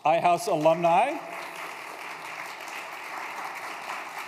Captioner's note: applause